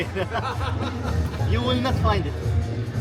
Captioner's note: laughs